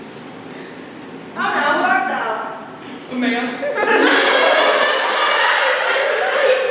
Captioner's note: extended laughter